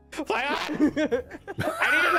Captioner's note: giggling